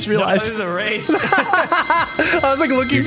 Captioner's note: laughing